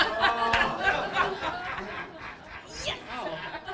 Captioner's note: laughter